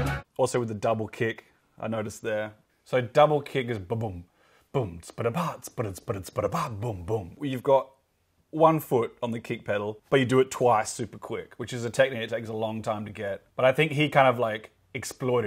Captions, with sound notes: Also with the double kick, I noticed there. So double kick is ba-boom, [imitates drums]. You've got one foot on the kick pedal, but you do it twice, super quick, which is a technique that takes a long time to get. But I think he kind of like exploited